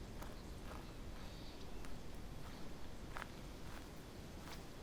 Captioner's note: footsteps crunching